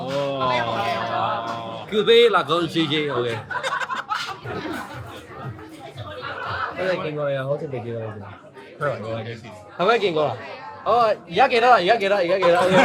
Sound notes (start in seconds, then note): 0.5 group chattering; 1.9 staff 2 speaking in foreign language; 2.9 group laughing; 4.9 people chattering; 6.8 staff 2 speaking in foreign language; 8.8 friend 2 speaking in foreign language; 9.9 staff 2 speaking in foreign language; 12.2 group laughing and chattering